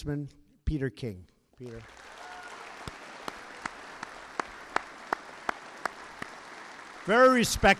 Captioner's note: applause